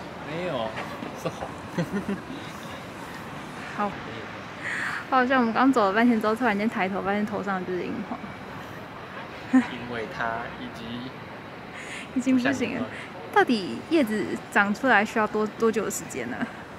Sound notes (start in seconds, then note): 1.7 hahaha